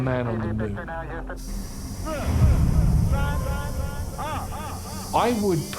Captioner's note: indistinct chatter and echo